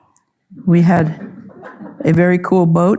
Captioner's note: audience chuckling